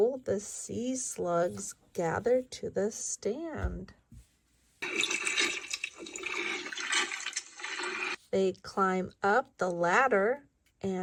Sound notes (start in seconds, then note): 4.8 water gurgles